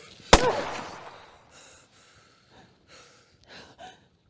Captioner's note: gunshot blasts; Eleanor grunts; Eleanor and Barry panting